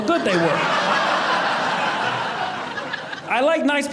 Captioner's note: audience laughing